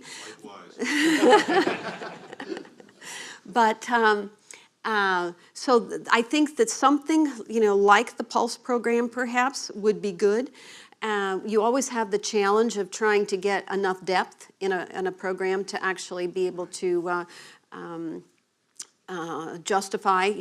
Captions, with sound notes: Likewise. [LAUGHTER] So I think that something like the PULSE program perhaps would be good. You always have the challenge of trying to get enough depth in a program to actually be able to justify